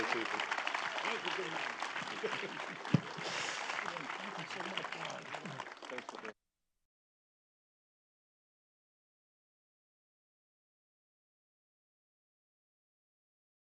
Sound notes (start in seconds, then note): 0.0 applause and thanks continue